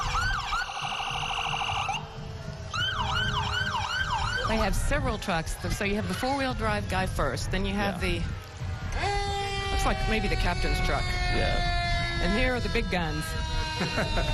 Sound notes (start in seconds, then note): 6.7 sirens